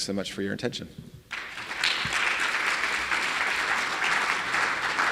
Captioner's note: audience clapping